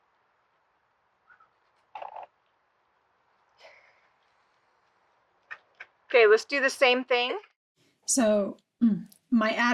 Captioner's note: laughing